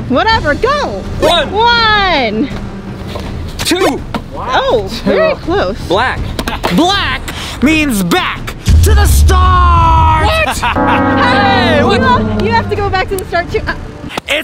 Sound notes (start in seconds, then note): 10.4 laughs loudly